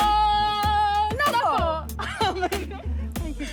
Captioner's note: both giggle